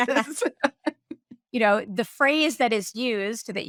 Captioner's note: laughing